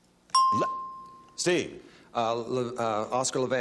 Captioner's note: bell chimes